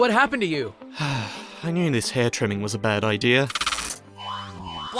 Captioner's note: sigh